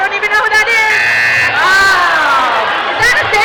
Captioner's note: buzzing